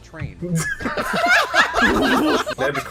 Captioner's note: laughter